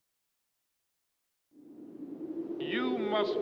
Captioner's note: wind